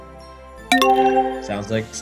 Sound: notification chimes

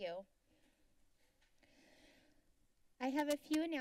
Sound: silence

